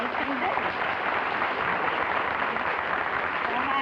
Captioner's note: applause